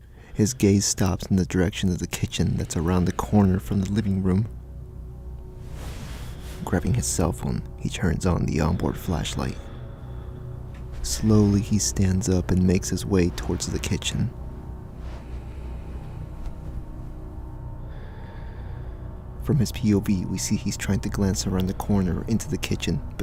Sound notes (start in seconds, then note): 15.2 breathing and footsteps